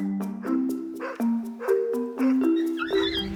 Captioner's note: dog barking; puppy squealing